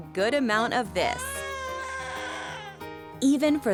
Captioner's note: baby crying